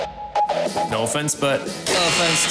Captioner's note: buzzing